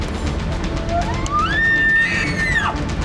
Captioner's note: elk bugling